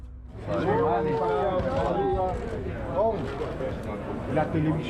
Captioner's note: crowd chattering